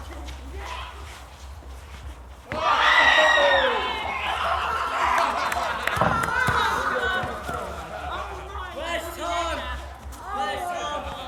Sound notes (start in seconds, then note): 2.7 squeals and laughter